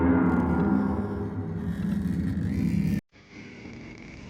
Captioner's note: creepy door opening